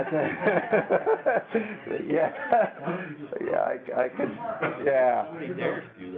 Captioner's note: laughter